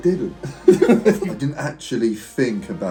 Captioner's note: both laughing